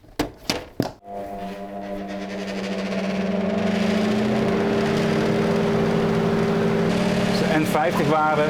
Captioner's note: fan noise